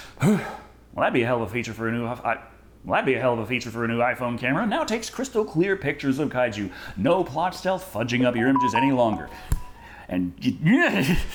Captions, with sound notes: Hoo! Well, that'd be a hell of a feature for a newff I. Well, I'd be a hell of a feature for a new iPhone camera now Takes crystal clear pictures of kaiju. No plot stealth fudging up your images any longer. No plot stealth **NOTIFICATION CHIME** fudging up your images any longer. And gggh... nnnghhh!!!